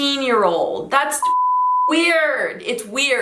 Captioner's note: beep